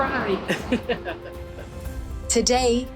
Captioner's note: laughs